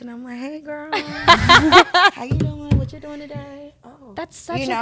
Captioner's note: laughs